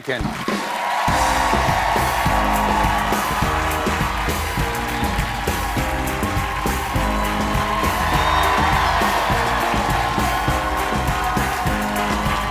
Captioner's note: cheers and applause